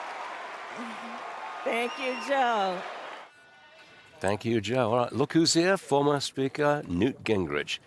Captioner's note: cheers and applause